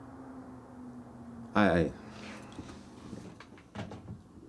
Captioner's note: sighs dismissively